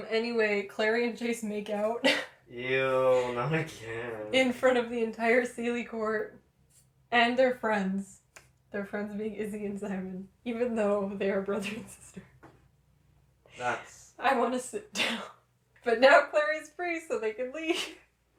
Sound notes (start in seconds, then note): 2.8 laughter